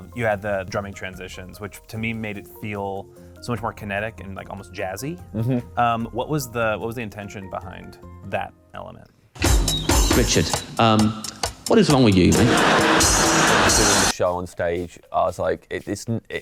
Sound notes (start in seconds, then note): 9.4 drums playing; 12.2 audience laughing